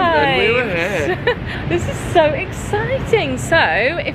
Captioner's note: laughing